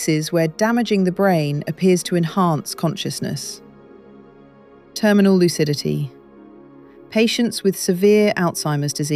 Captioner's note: serious tone